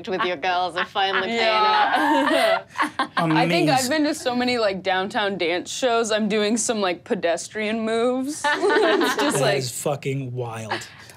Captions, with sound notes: with the girls I finally paying off. - Yeah. - Amazing. - I think I've been to so many like downtown dance shows, I'm doing some like pedestrian moves. (laughs) - It's fucking wild.